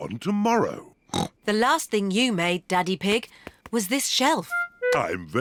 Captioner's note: snorts